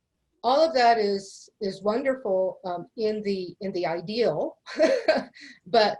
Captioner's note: laughs